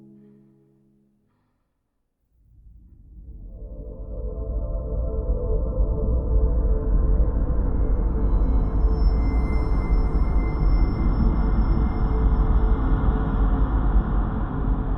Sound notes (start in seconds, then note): none